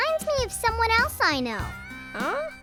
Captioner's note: shushing